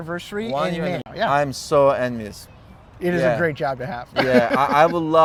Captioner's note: güler